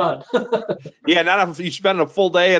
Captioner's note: laughs